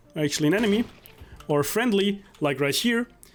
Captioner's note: gun shot